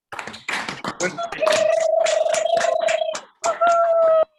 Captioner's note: clapping; cheering